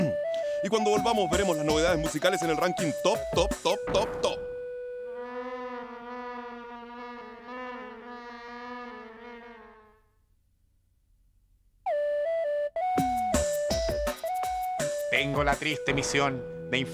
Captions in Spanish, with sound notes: Y cuando volvamos, veremos novedades musicales en el Ranking Top, top, top, top. (Sonido de una mosca volando dentro de Tulio) Tengo la triste misión...